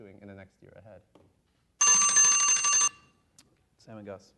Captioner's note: alarm rings